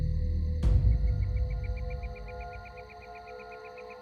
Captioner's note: birds calling